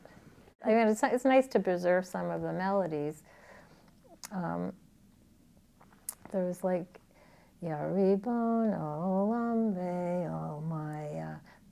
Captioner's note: Hebrew